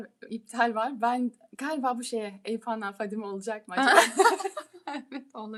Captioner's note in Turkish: kahkaha